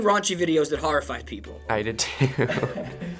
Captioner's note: chuckling